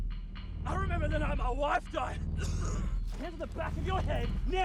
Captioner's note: eerie music; coughs